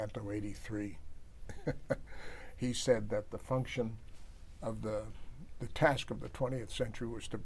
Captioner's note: laughs